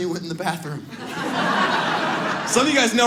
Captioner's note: audience laughs